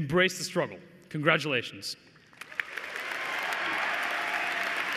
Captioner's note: cheers and applause